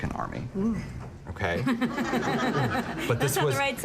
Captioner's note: laughter